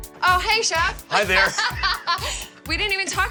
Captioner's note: laughing